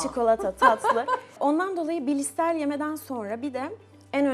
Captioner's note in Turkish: kahkaha